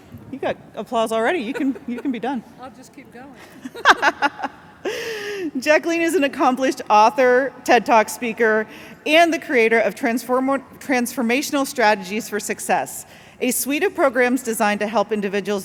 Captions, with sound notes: You got applause already. You can be done. I'll just keep going. [LAUGHTER] Jacqueline is an accomplished author, TED Talk speaker, and the creator of Transformational Strategies for Success, a suite of programs designed to help individuals